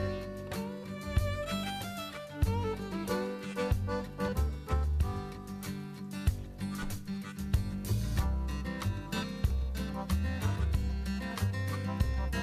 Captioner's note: hammering